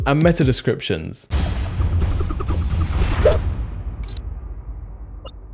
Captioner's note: ninja stars whooshing; dramatic music; cursor clicks; ninja beeping